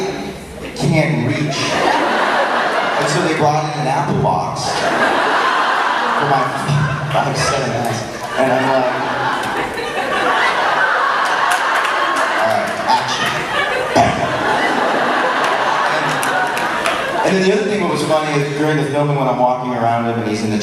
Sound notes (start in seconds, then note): 6.0 crowd laughs louder